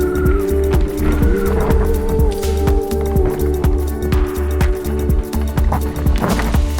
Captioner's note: slow-motion rattling of bike and marshall’s whistle; slow-motion rattling of bike; tire skidding into rut